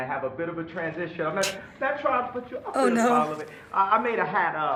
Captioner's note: chuckles